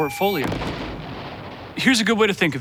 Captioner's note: loud explosion